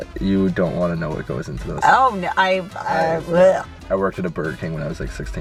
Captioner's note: gags